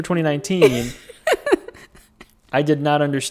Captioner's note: laughing